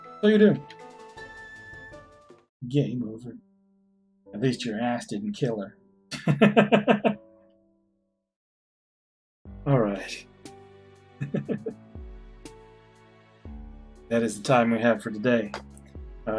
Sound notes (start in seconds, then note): 6.0 laughs; 11.2 chuckles